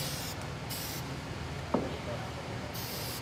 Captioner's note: spraying